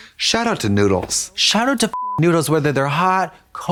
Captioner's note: beep